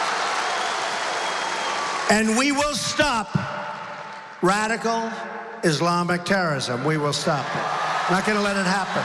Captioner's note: applause